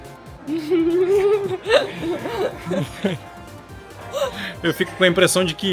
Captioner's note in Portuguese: risadas